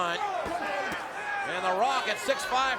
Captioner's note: crowd shouting